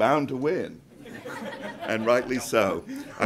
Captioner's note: group laughs